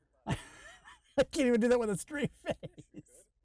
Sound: laughing

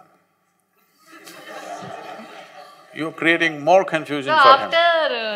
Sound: laughter

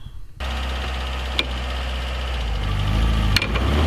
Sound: engine running; engine revs up

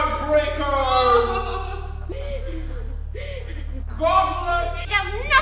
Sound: Amy wailing

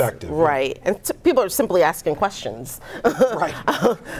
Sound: laughing

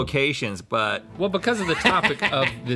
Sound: laughing

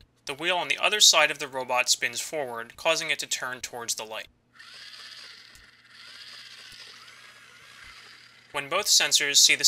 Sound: robot noises

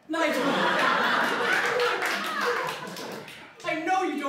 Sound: laughter

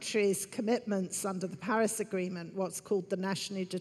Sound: none

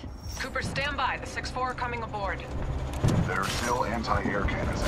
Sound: radio

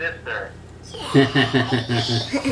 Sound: laughs

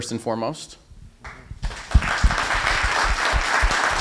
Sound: applause

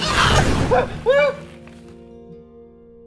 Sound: strange noises and screams

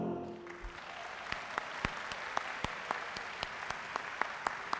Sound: audience applauding

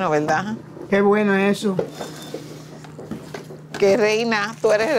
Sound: Spanish

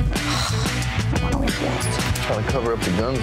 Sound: heavy sighing

